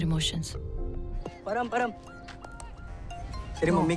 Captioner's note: phone ringing